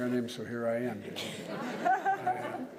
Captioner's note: laughter